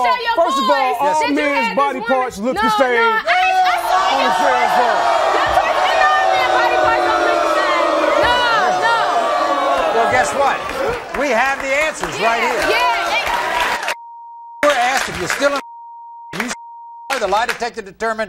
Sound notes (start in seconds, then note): 4.3 audience groaning; 5.9 audience booing